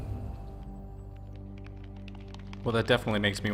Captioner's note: raindrops falling